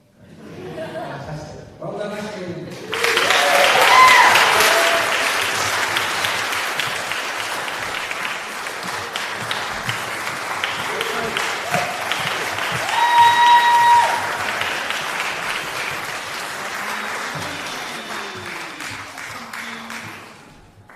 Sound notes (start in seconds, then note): 2.7 applause